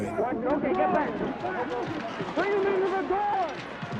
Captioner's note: protestors shouting